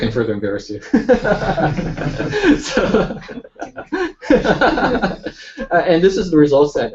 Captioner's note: laughter